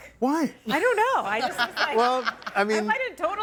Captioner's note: guests laughing